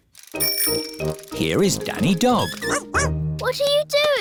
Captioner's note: bell ringing